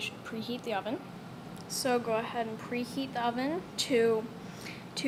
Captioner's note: more gross inhaling